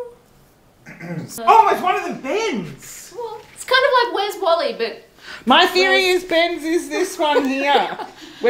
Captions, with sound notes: - (clears throat) Oh, is one of them Ben's? - Well, it's kind of like where's Wally, but- - My theory is, Ben's is this one here!